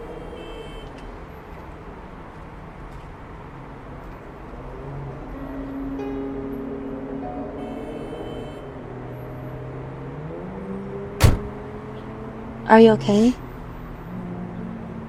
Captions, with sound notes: (horns honking) (uncomfortable music) (door slamming) - Are you okay?